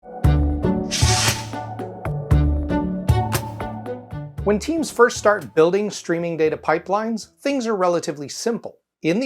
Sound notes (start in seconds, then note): 0.0 light upbeat music; 0.9 logo whooshing